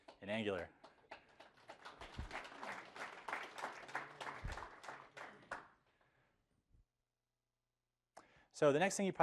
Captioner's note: applause